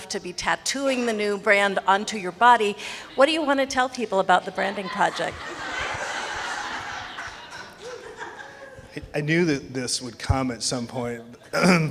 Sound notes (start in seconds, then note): 6.5 people laughing